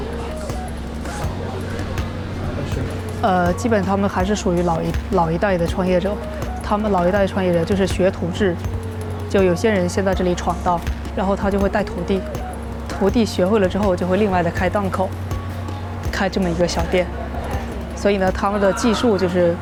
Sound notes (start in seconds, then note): 0.2 upbeat music; 4.1 speaking foreign language; 14.6 speaking foreign language